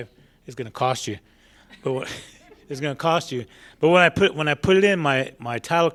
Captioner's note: laughter